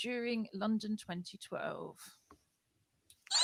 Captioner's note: squeaky noise